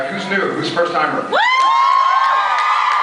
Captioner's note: screams